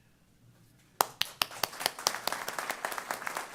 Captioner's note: applause